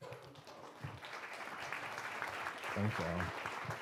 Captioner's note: applause